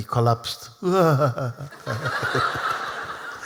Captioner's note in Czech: Smích